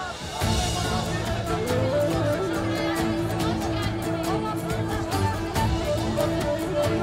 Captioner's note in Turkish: Kalabalık konuşma sesleri